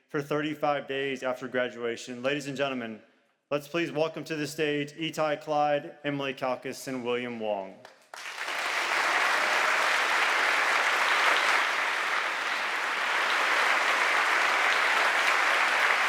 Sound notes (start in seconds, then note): 8.0 audience applauding